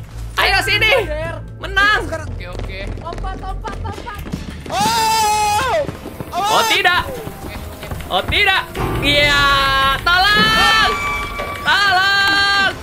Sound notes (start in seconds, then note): 5.2 scream